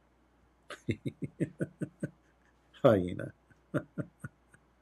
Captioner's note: Ketawa